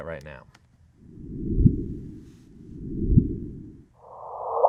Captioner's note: loud echoing pulse